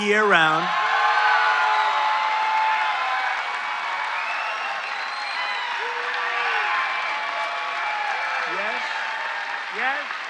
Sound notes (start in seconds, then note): 2.3 cheering